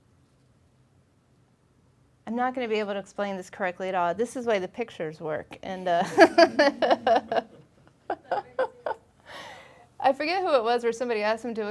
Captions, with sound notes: I'm not gonna be able to explain this correctly at all. This is why the pictures work and (laughing) I forget who it was where somebody asked them